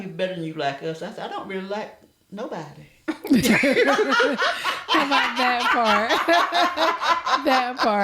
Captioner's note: laughter